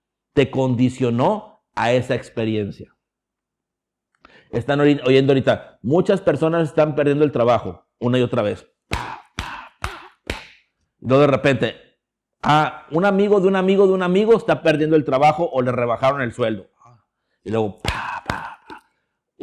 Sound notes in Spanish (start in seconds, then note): 8.9 golpes repetitivas en la mano; 17.8 golpes repetitivas en la mano